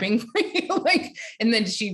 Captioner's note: laughing